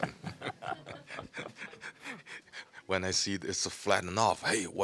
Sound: audience laughing

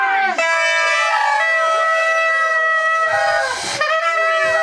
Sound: horns bleating

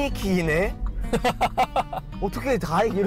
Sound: haha

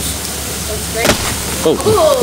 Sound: crash!

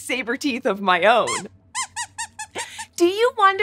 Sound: squeaks squeaks

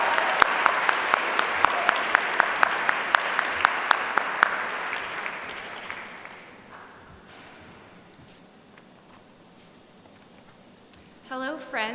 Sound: applause

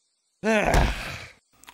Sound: sigh

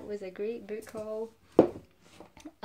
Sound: book thumping

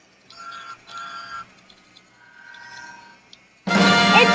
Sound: horn sounds

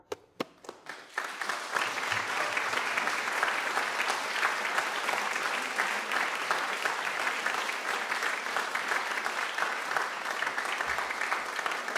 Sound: applauding

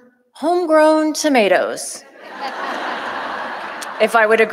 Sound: audience laughing

